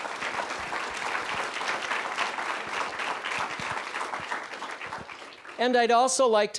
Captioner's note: applause